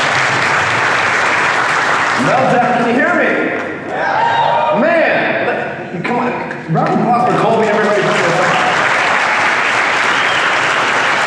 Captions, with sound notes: - Meltdown, can you hear me? (audience cheering) - Man, come on, a round of applause for Kolby, everybody. (audience applauding)